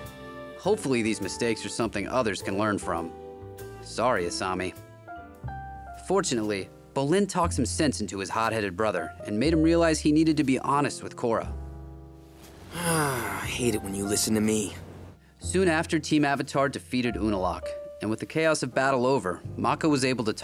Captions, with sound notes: Hopefully, these mistakes are something others can learn from. Sorry Asami. Fortunately, Bolin talks some sense into his hotheaded brother and made him realize he needed to be honest with Korra. [sighing] I hate it when you listen to me. Soon after, Team Avatar defeated Unalaq. And with the chaos of battle over, Mako was able to talk